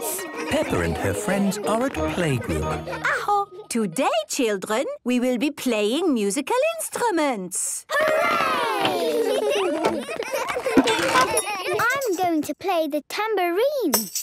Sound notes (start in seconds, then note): 9.0 excited giggling